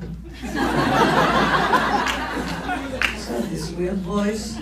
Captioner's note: laughs